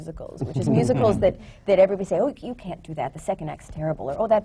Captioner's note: laughter